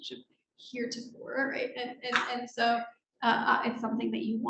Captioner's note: speaking faintly